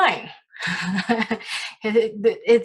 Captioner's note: giggles